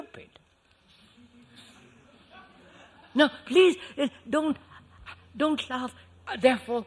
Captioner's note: laughter